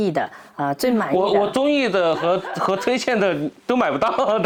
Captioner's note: laugh